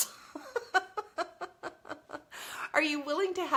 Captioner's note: laughs